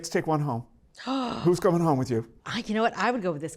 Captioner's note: gasps